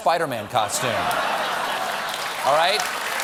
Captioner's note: laughter; applause